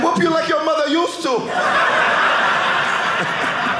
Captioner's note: audience laughing